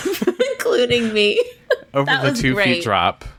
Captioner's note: laughs